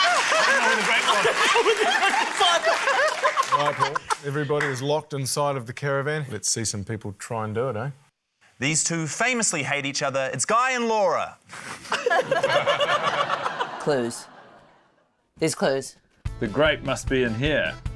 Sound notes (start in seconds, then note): 11.7 laughter